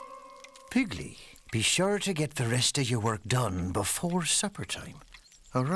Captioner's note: none